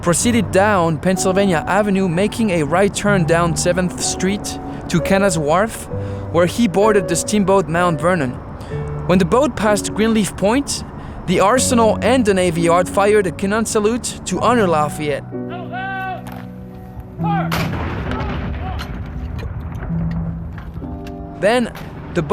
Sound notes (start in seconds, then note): 17.4 cannon fire